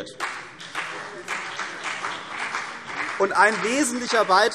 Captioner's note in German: Beifall CDU und BÜNDNIS 90/DIE GRÜNEN